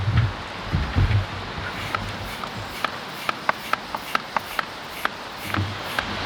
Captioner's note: air pump